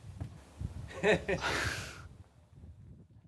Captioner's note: laughing